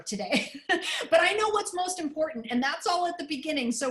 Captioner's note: laughter